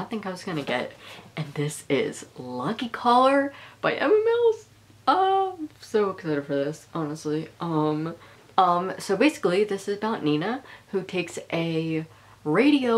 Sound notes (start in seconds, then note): none